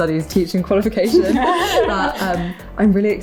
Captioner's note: laughter